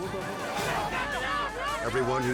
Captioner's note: group shouting